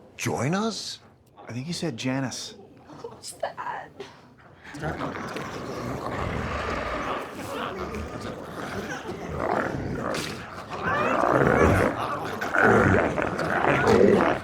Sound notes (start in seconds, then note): 5.1 glowzies growling